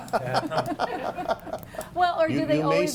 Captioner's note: laughing